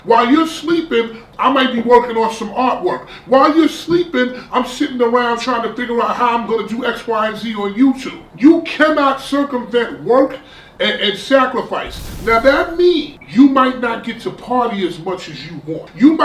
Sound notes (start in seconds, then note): 11.8 crashing noise